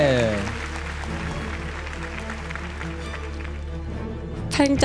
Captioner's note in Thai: ปรบมือ